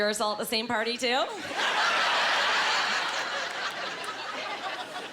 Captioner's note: laughing